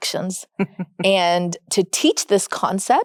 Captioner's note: chuckles